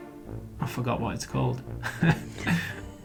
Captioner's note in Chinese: chuckles; 咯咯笑